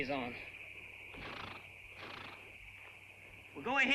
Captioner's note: horse snorts